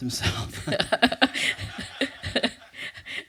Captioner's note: laughter; laughs